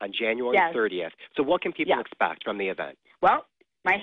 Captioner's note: laughing